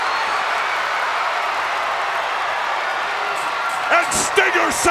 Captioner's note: crowd cheers